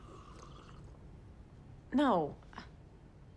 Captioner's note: slurping